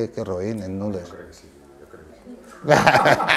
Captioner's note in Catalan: Risses